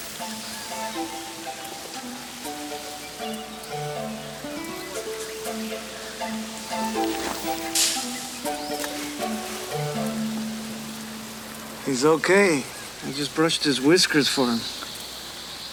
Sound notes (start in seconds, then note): 0.3 gentle music; 7.8 leaves rustle